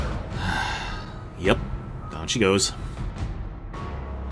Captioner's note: sigh